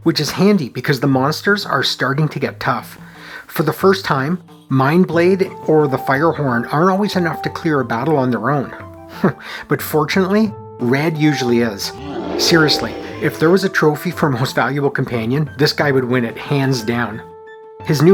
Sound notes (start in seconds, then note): 9.3 chuckles; 11.9 roar